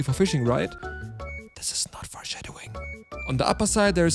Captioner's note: whispering